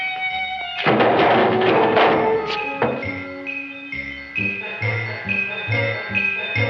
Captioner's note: can clanging